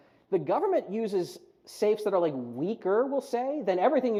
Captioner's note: none